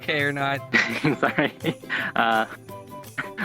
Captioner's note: laughs